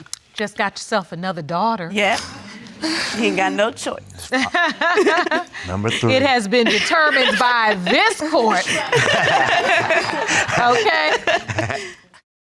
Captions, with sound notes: Just got yourself another daughter. Yeah. He ain't got no choice. (LAUGHING) Number three. It has been determined by this court. Okay?